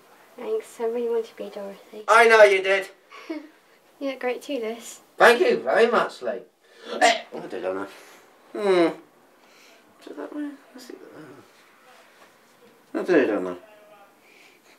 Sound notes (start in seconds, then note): 3.2 laughs